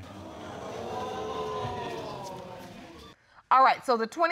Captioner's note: crowd exclaims